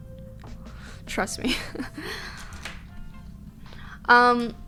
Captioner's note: she laughs